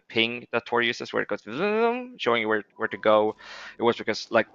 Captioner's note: makes zooming chime sound